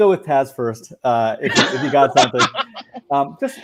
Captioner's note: laughing